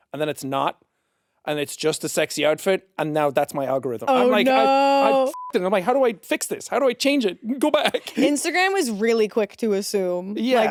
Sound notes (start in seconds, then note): 4.4 beeps